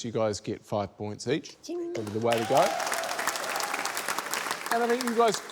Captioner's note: cheering, applause